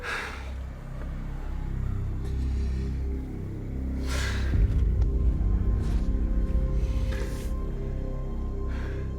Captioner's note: groaning